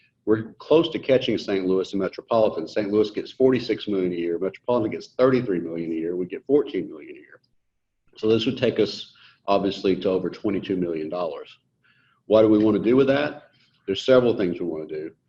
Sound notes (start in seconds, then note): none